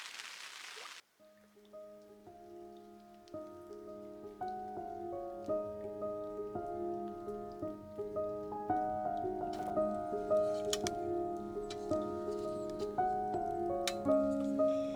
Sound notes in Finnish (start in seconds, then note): 1.4 sateen ropina, musiikki, piano; 8.6 tuli räiskyy nuotiossa, taustalla kolinaa; 14.7 kiehuva vesi, askelia taustalla